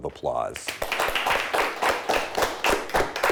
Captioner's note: clapping